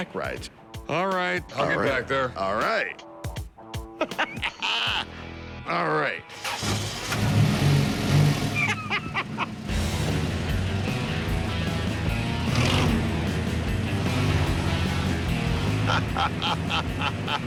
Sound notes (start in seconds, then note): 3.9 laughs; 6.3 engine starting; 6.8 revving; 8.5 laughs; 15.6 laughs